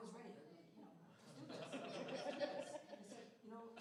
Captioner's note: laughter